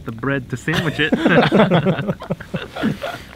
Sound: all laugh

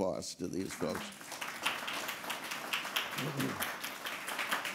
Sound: people clapping

